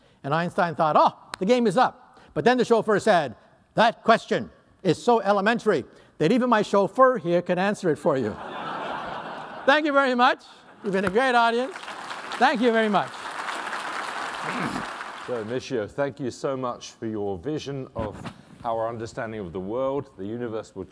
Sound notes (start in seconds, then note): 8.2 laughter; 13.0 applause